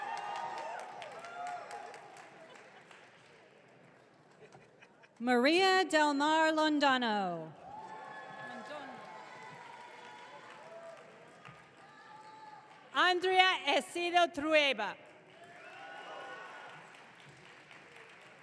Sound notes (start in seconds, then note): 7.6 audience cheering